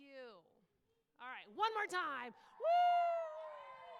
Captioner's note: applause